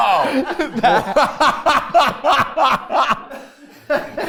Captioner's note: everyone laughs